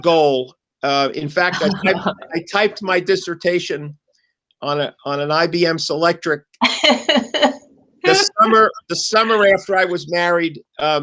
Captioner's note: laughter